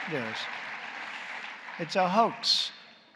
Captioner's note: applause